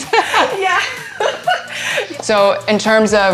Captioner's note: laughs